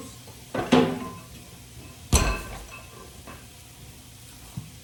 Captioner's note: refrigerator clattering